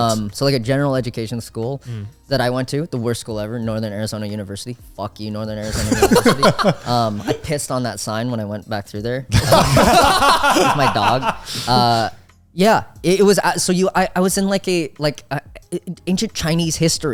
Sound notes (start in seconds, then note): 5.6 all laughing